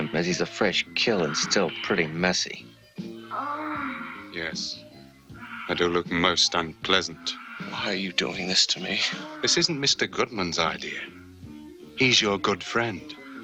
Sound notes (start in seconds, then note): 3.2 woman In Film Moaning